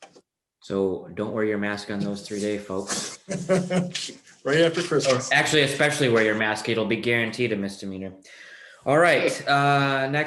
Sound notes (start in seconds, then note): 2.8 laughing